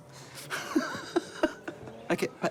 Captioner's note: laughs